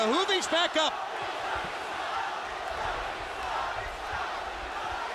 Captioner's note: audience chanting